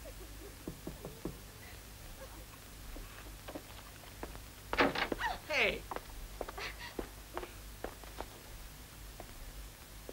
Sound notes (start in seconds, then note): 0.6 knocking; 5.2 cries out